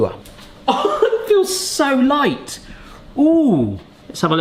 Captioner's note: laughs